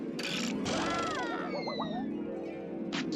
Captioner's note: Daffy yelling